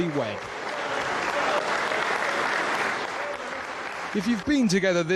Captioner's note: audience applauds